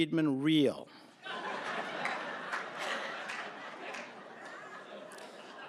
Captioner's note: laughter